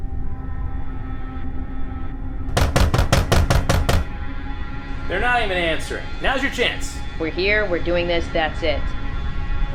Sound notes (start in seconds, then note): 0.1 slow suspenseful music; 2.5 knocking at door